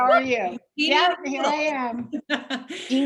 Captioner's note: laughs